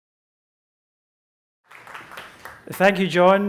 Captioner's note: applause